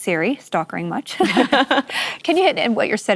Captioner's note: laughter